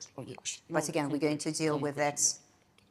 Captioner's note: speaking faintly